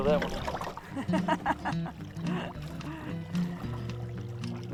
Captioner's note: laughs